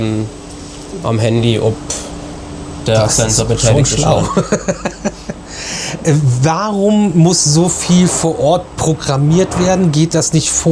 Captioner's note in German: gelächter